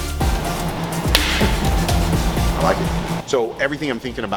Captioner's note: hands clap